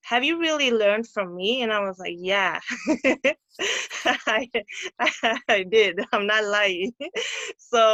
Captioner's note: laughter